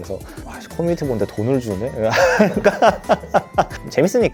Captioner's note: laughs